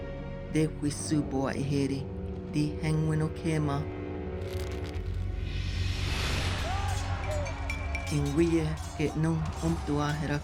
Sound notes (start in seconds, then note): 6.6 people fighting